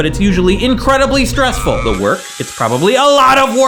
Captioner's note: screaming